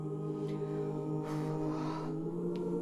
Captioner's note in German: atmet tief aus